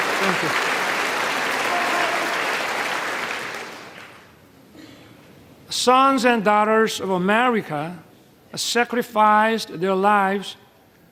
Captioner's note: applause